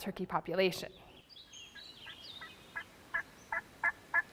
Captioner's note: birds twittering